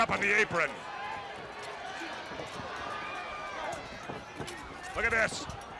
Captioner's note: crowd chatter